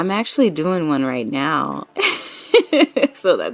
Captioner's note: laughing